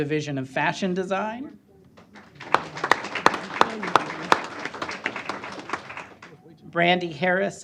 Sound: applause

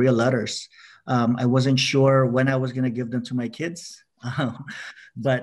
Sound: laughs

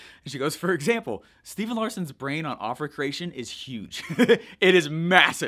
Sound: giggles

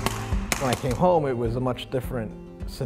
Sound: gun popping

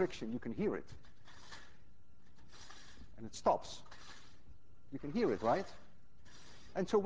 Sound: metal lid grating

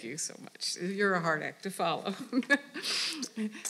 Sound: laughing

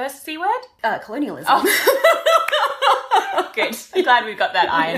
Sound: laughter

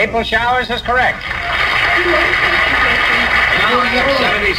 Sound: audience applauds

